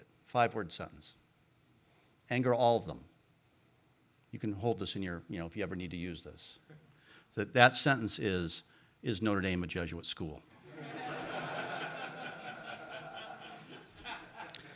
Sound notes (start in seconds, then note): 10.6 audience laughing